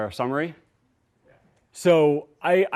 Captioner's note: voiceover